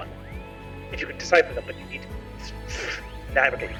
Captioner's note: mimics distortion